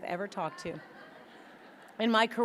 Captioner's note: audience laughing